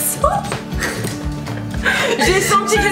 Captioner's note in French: rires